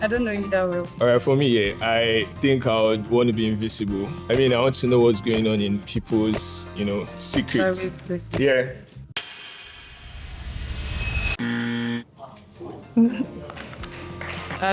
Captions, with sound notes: I don't know if that would work. All right, for me, yeah, I think I would want to be invisible. I mean, I want to know what's going on in people's lives. I want to know what's going on in people's secrets. - Private spaces. Yeah. (buzzer) (clapping)